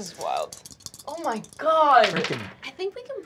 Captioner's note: dice clacking